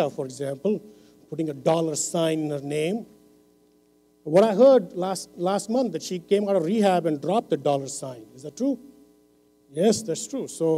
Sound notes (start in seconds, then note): none